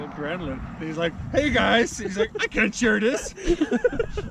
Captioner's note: murmurs